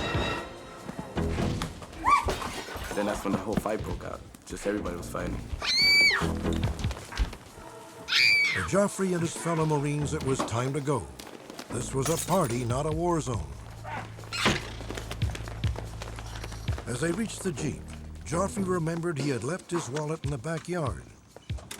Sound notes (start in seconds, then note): 0.1 slaps; 8.0 screams